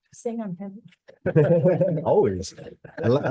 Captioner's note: senators laughs